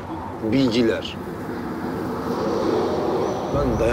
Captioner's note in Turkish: Trafik sesi